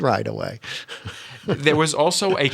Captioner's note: laughter